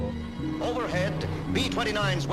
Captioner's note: soundbite of archived recording